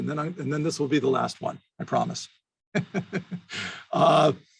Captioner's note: laughs